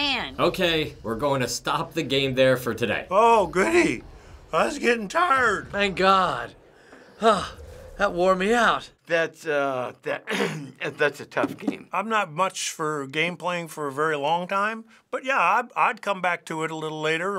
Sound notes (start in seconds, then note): 6.6 sighs; 10.2 clears throat